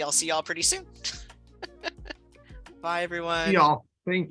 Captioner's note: laughter